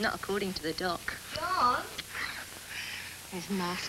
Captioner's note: gran, calling